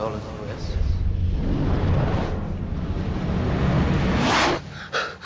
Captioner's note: whooshing; gasping